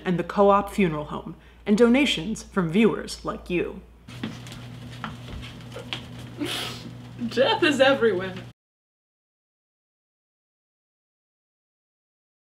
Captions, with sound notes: and the Co-Op Funeral Home and donations from viewers like you. [SOFT LAUGH] Death is everywhere!